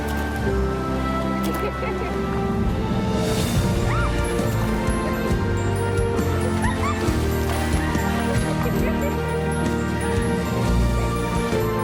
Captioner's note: giggling, water splashing